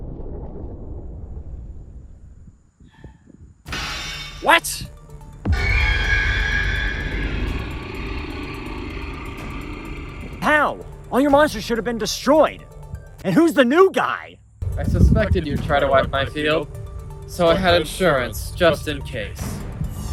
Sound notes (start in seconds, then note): 5.4 sieger shrieks; 5.5 dragon growl